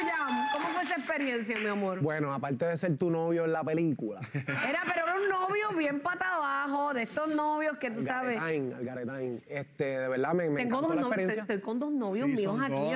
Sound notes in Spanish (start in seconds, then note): 2.6 aplausos